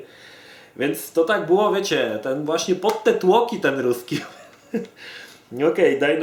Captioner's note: laughs